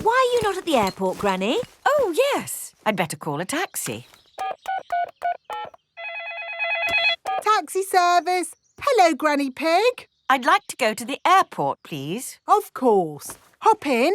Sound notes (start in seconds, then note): 5.9 phone ringing; 6.0 dialing